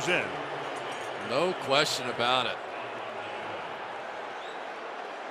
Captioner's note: crowd booing